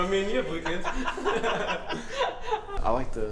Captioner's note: laughing